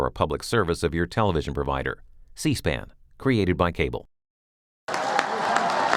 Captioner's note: applause